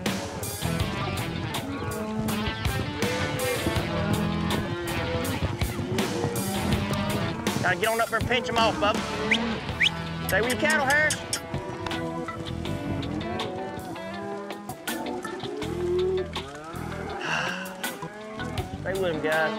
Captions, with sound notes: [CATTLE MOO] GOTTA GET UP THERE AND PINCH 'EM OFF, BUBBA! [WHISTLES] STAY WITH YOUR CATTLE, HARRIS! [CATTLE MOO] [SIGHS] STAY WITH 'EM GUYS.